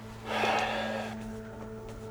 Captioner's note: suspenseful music; sighs